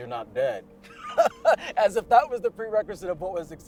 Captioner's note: laughs